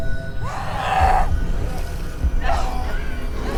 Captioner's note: Lock growls